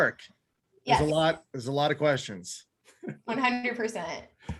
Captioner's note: laughs